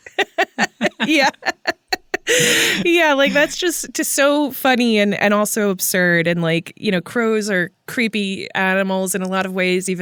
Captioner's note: laughs